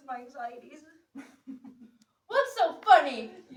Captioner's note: Tiresias laughs